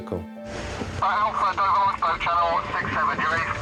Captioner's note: radio